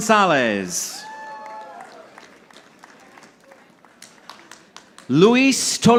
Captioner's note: audience applauding